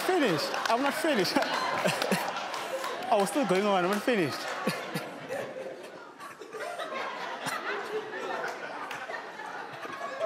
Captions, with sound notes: - I'm not finished, I'm not finished (laughs). I was still going on, I weren't finished. (audience laughing)